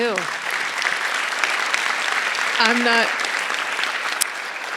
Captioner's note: audience applauding